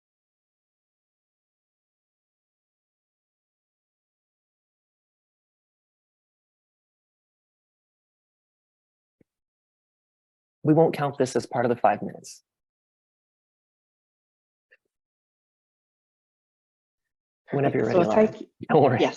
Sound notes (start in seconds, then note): 1.2 pause